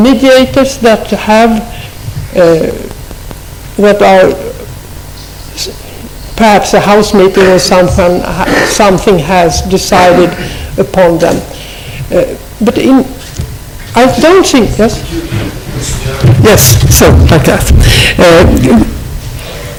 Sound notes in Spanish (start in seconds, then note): 16.3 voz fuera de micrófono